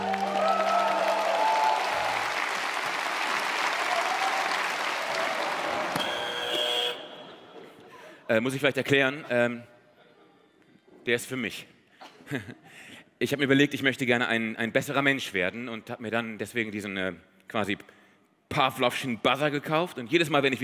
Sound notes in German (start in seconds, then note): 0.0 Jubel, Applaus; 6.0 Der Buzzer summt